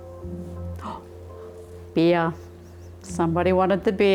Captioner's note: gasps